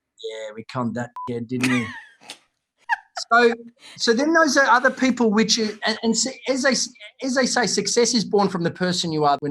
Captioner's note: beep